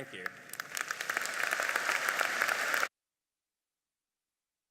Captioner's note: audience applauding